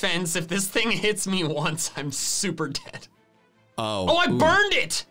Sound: laughs

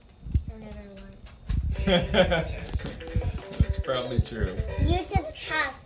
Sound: laughing

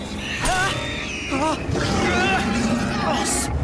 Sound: wincing

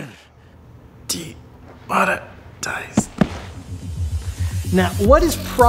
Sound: grunts

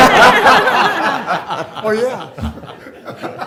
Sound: laughter

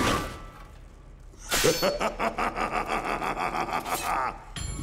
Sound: laughing

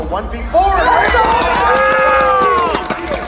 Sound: crowd cheering

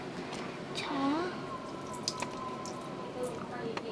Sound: bubbling

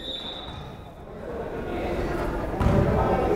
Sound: whistle blows

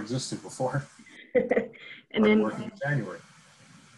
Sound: laughs

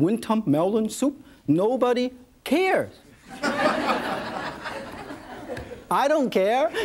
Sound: audience laughs

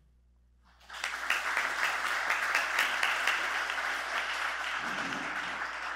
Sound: applause

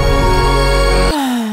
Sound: happy instrumental music; upbeat music; sighs

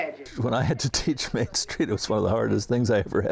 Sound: laughing

